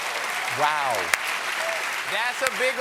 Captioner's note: cheers and applause